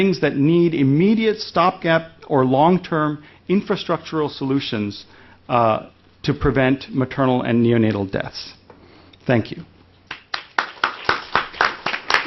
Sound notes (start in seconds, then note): 10.0 applause